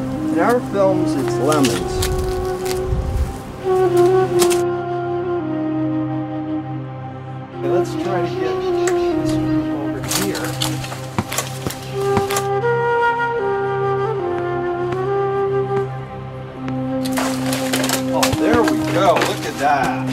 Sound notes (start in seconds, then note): 3.3 solemn flute music; 10.9 lemon thuds softly; 12.5 solemn flute music; 14.5 lemon thuds softly; 19.9 solemn flute music